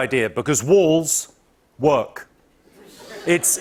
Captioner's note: light laughter